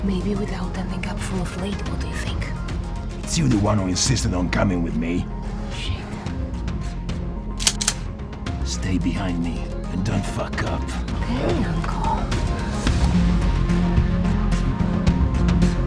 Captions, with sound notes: Maybe without ending up full of lead, what do you think? - It's you the one who insisted on coming with me. - Shit. (dramatic music) (gun cocking) - Stay behind me and don't fuck up. - Okay uncle. (dramatic music)